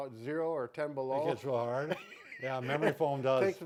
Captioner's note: chuckling